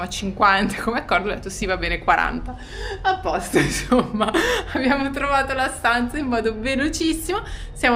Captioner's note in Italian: risate